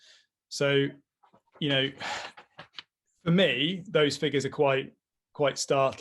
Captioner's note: sighs